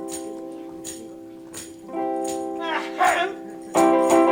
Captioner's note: clears throat